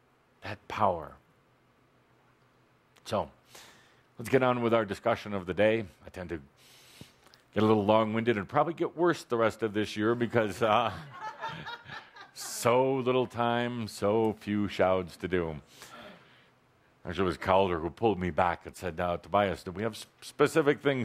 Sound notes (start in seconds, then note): 10.7 laughter